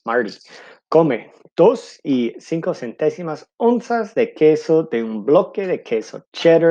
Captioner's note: speaking in foreign language